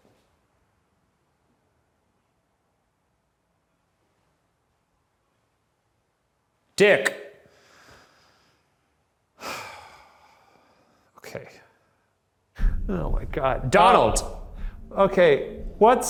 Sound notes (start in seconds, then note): 9.4 sighing